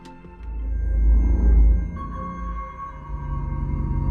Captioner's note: distorted elevator ding